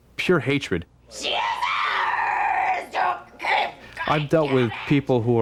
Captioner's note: screaming incoherently